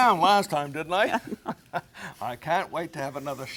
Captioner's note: laughing